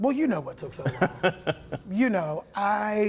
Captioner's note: laughter